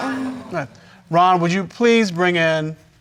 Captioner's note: audience exclaims